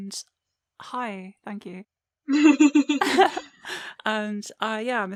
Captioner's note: laughter